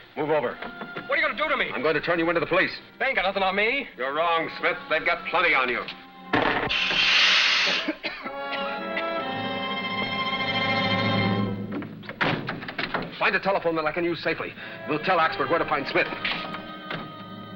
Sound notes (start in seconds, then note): 6.4 gas gun hisses; 7.7 Smith coughs; 8.3 dramatic music